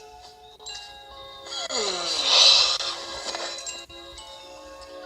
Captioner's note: yawning